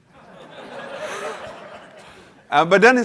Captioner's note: laughter